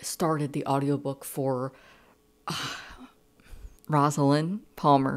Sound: sigh

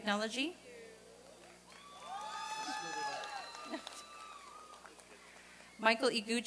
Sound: applause and cheering

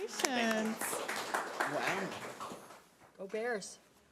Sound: audience applauding

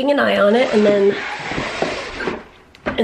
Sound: shades closing

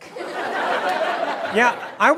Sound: laughter

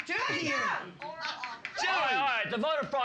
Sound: woman shouting

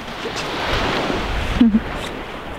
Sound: laughing

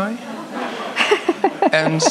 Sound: audience laughs

